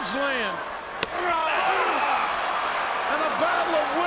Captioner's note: crowd cheers